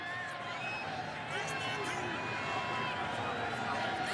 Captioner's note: cheers, applause